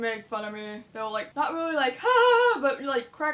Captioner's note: laughs